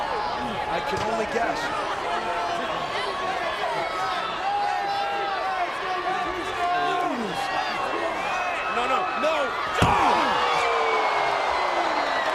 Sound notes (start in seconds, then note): 4.1 crowd chattering